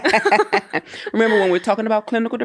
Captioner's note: both laugh